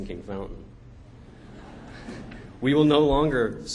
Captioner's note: laughter